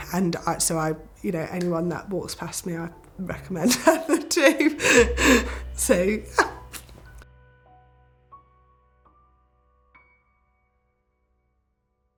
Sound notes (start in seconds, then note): 3.6 laughs; 7.2 uplifting instrumental music